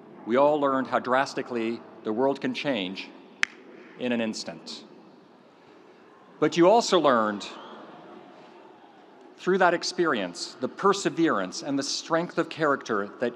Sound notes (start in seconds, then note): 3.4 fingers snapping